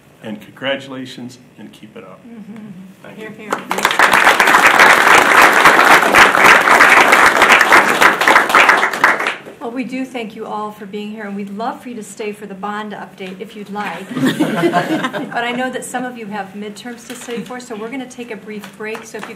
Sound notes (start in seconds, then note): 3.5 audience applauding; 13.9 audience laughing